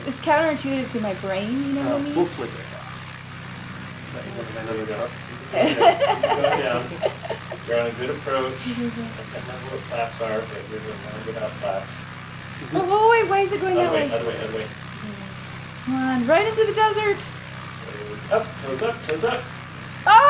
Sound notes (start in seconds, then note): 5.5 all laughing